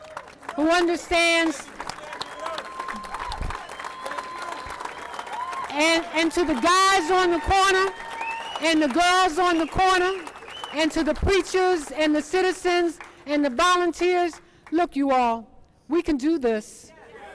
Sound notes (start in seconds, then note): 5.1 applause